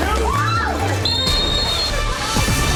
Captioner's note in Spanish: silbato sopla